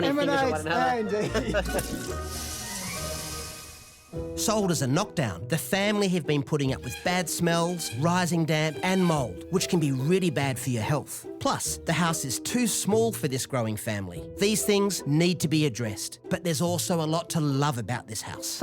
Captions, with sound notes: - You pointing fingers at one another!-- - Emanates indeed! (flushing) - Sold as a knock down, the family have been putting up with bad smells, rising damp and mold which can be really bad for your health. Plus the house is too small for this growing family. These things need to be addressed, but there's also a lot to love about this house.